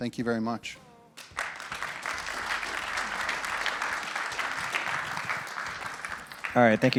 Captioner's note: applause